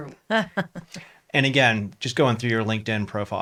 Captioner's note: laughs